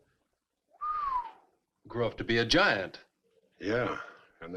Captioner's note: whistles